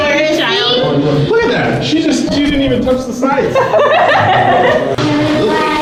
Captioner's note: laughter